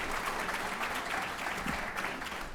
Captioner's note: applause